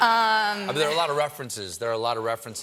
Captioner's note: laughter